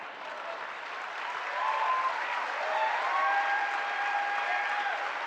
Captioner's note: applause